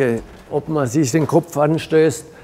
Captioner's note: none